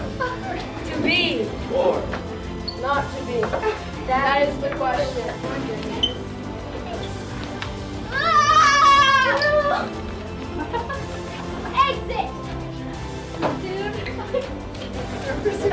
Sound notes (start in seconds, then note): 8.0 screaming